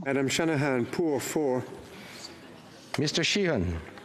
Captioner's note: speaking FRENCH